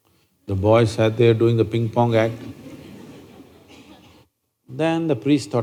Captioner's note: few Laugh